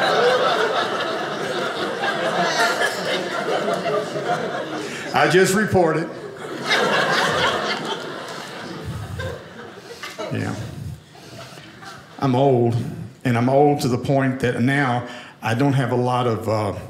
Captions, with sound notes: I just report it. (audience laughing) I'm old and I'm old to the point that now I don't have a lot of—